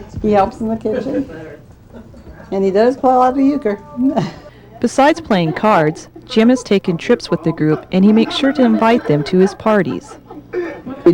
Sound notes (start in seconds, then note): 1.8 chuckles